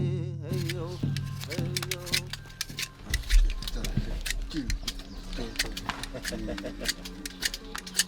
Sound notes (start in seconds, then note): 0.5 knife scraping